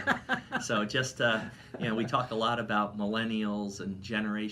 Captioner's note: laughing